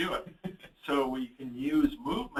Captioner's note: chuckles